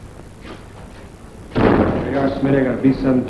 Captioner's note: door banging